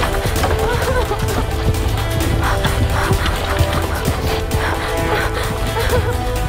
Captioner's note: Gasping; Sobbing; Cries